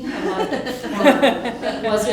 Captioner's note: laughter